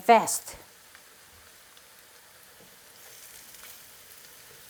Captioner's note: oil sizzling